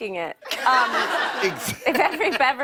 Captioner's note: laughter